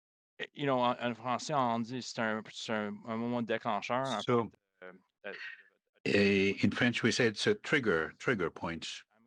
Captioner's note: speaking French